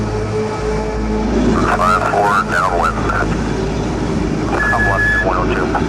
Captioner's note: male Speaker Over Radio